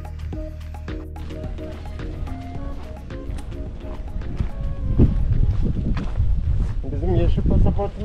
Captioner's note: wind sound